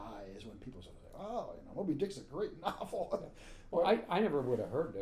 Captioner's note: laughing